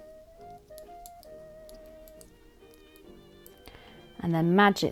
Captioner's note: needles clicking